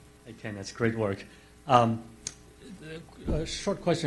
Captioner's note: voiceover